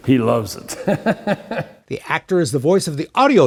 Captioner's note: laughs